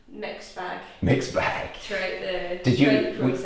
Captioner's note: laughs